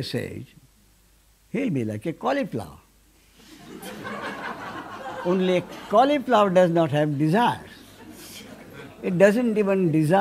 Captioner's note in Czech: smích